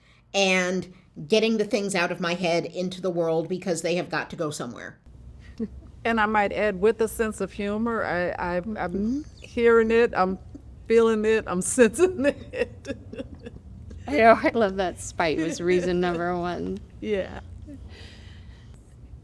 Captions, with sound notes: and getting the things out of my head into the world because they have got to go somewhere [Laughter] and I might add with a sense of humor [Sounds of agreement] I'm I'm hearing it, I'm feeling it, I'm sensing it [Laughter] You know I love that spite was reason number one Yeah